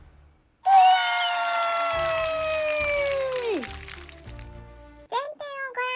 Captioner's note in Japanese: 大歓声